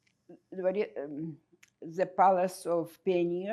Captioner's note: russian